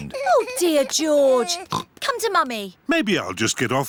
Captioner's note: oinks